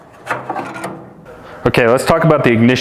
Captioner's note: burners clanking